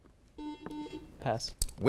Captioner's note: beeping